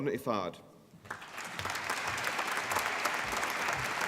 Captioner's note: applause